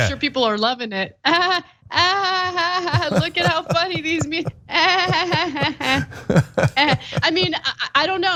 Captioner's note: laugh